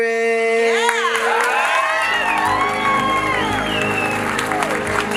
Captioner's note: crowd cheering and clapping